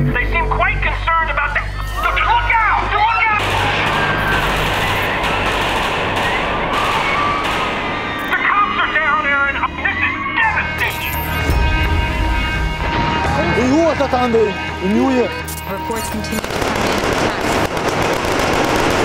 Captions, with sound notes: They seem quite concerned about that - look out! [Gunfire] The cops are down, Erin. This is devastating! Reports continue to come in of attacks across the world